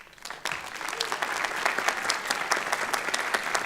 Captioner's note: applause